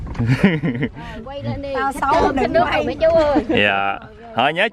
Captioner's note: laugh